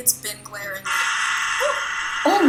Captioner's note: loud buzzing